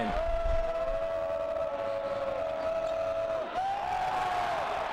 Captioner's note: crowd noises